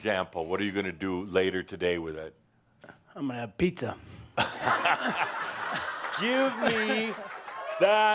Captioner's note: lots of laughter